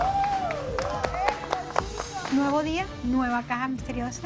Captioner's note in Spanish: Aplausos y exclamaciones